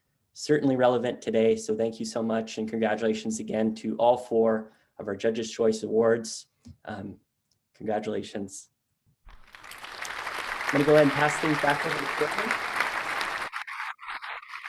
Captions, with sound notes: Certainly relevant today. Thank you so much and congratulations again to all four of our Judges Choice Awards. (clapping) I'm going to go ahead and pass things back over to Corbin.